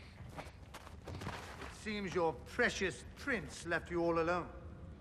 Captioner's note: none